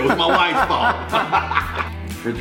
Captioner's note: laughter